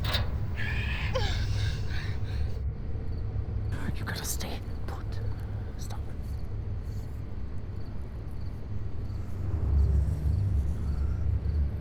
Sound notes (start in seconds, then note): 0.5 Linda groaning; 8.5 gentle tense music